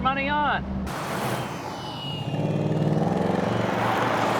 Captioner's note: engine revving